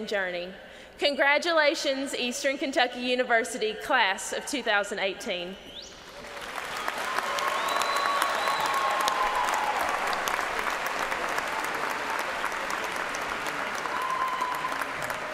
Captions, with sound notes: DREAMERS OF DREAMS." THIS IS NOT THE END, BUT ONLY THE BEGINNING OF OUR DREAM CHASING JOURNEY. CONGRATULATIONS, EASTERN KENTUCKY UNIVERSITY CLASS OF 2018. [ CHEERS AND APPLAUSE ]